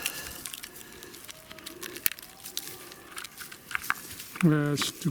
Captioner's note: man shouting; rust crackling